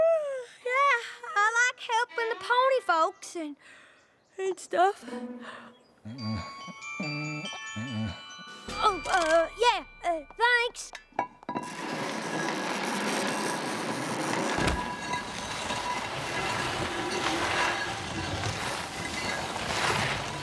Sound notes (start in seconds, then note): 6.0 yawning; 6.0 snoring lightly; 11.1 metal scraping